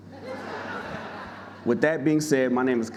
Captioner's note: audience laughing